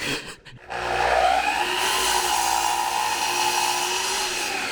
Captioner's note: whirring sounds